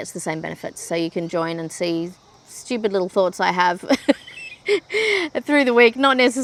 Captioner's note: chuckles